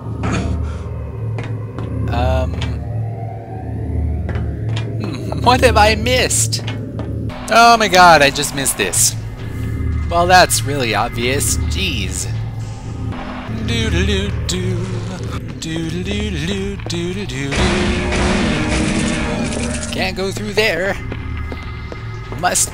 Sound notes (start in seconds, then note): 12.2 humming